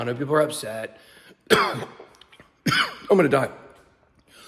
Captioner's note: coughs